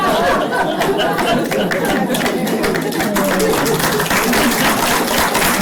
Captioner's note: applause